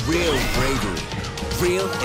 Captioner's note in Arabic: الناس يصرخون; صراخ الديناصورات